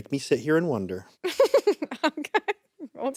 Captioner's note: laughs